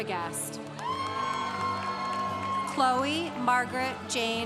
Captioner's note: congregation cheering